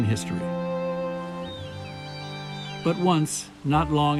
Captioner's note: bird calling